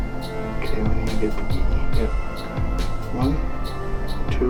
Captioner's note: mumbling